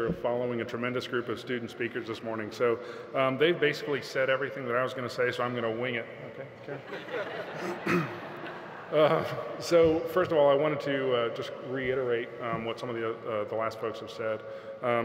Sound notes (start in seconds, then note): 8.3 audience laughing